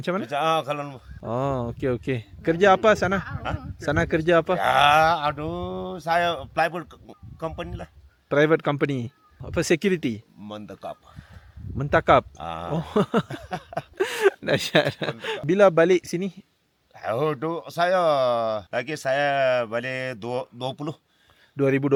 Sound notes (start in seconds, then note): 12.6 laugh